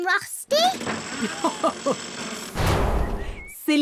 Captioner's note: chuckles